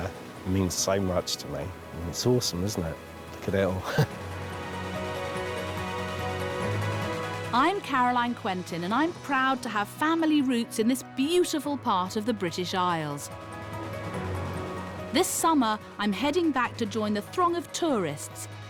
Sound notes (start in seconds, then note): 3.8 chuckles